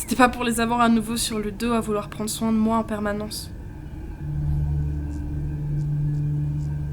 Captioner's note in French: Ton ironique